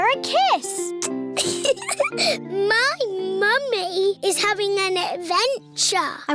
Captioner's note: air kisses; giggles